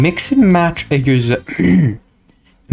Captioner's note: clears Throat